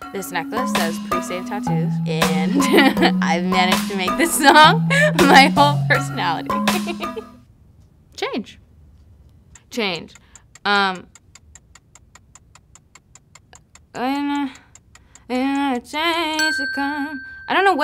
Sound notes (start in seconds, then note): 6.6 laughing; 11.4 clock ticking; 16.4 ding